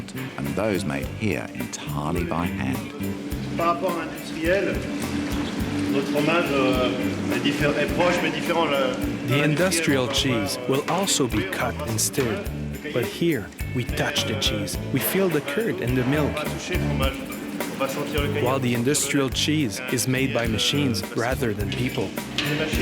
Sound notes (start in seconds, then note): 3.0 speaks french